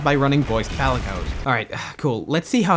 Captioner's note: sigh